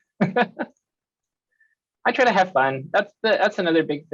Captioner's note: laughs